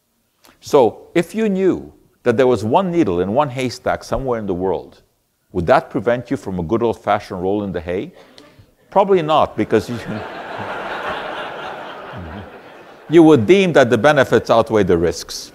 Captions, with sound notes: So if you knew that there was one needle in one haystack somewhere in the world Would that prevent you from a good old-fashioned roll in the hay? Probably not [audience laughter] because you You would deem that the benefits outweigh the risks. [audience laughter]